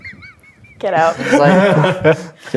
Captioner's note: laughing; others laughing